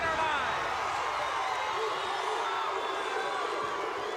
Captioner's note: audience cheers